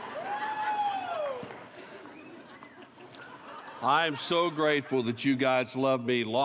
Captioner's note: applause